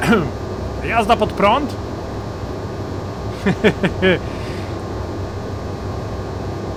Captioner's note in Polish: śmiech